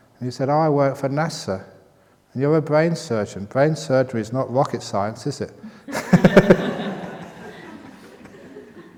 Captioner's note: laughter